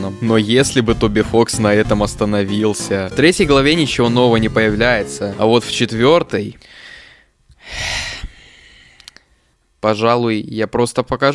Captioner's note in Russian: вздох